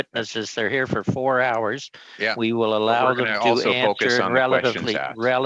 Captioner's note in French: voix de l'interprète